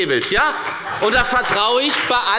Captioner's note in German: Beifall bei der FDP und bei Abgeordneten der SPD